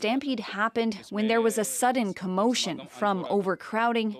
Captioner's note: speaking alternate language